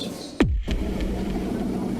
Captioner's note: popping boom